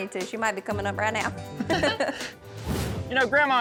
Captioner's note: laughter